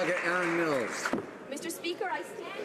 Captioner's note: some Applause